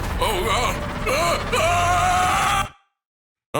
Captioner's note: Tumbill screaming